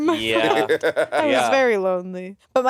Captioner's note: Monét laughing